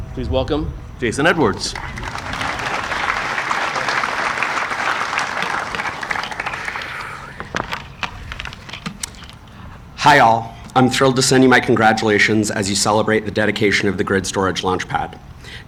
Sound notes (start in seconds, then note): 1.5 audience applauding